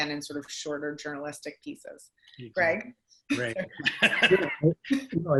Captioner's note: laughs